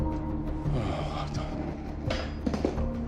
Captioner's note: sighs